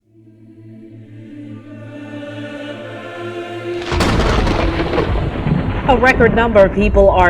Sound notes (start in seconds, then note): 0.0 ethereal music; 3.7 thunder crashes